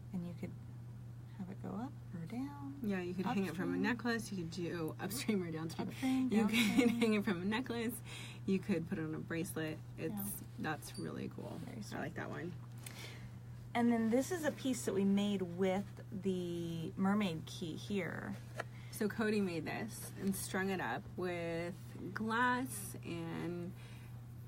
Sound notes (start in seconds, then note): 7.5 laughs